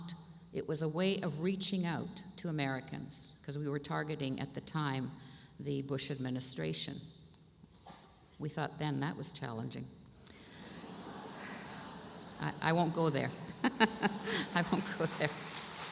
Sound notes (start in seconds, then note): 13.2 laughter